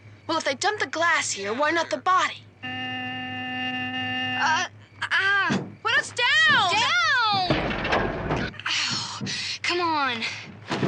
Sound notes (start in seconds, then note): 2.6 horn honking; 8.6 sighing